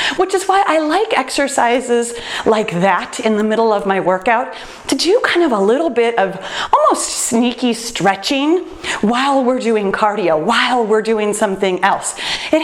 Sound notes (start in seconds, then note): none